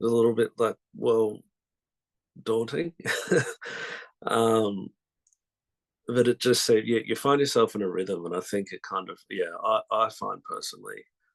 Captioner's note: laughs